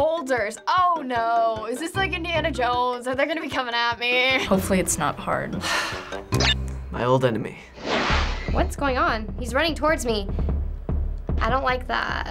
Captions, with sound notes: - "Boulders." Oh no. Is this like Indiana Jones? Are they gonna be coming at me? - Hopefully it's not hard. - (deep sigh) (game blips) My old enemy. (swoosh) - What's going on? He's running towards me. I don't like that.